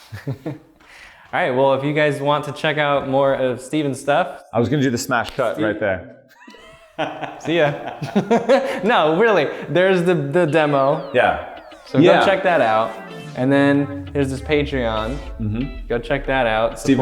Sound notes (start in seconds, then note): 0.0 chuckles; 6.3 laughter